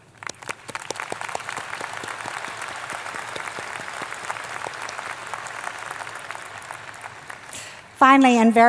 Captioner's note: applause